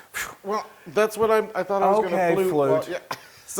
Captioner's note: laugh